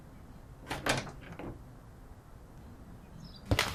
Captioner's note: door clicks